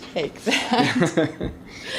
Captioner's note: laughing